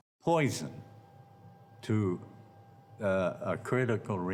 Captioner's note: none